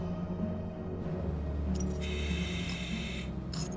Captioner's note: grinder whizzes